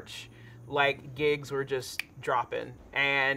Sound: snapping

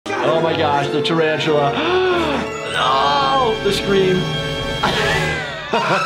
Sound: gasp; laughing

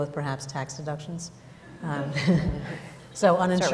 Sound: laughter

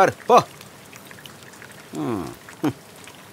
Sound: rain sound

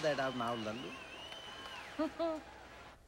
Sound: laughing

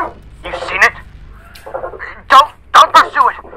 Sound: bird sounds

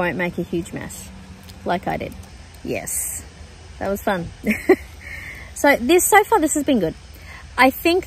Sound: laughs

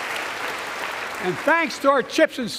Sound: applause

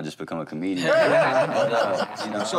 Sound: laughter

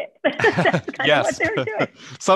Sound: laughter

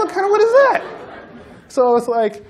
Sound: laughter

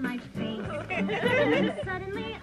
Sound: audience laughs

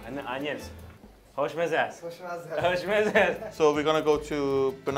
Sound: both speaking in foreign language

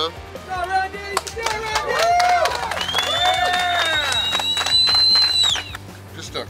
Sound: cheering & Clapping

